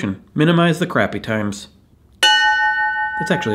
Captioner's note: bell ringing